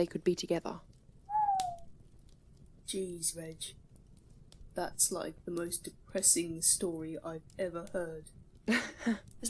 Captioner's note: James lets out a low whistle; Regulus laughs